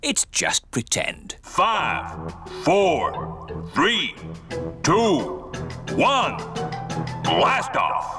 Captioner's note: on speakers